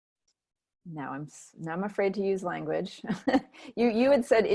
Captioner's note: giggles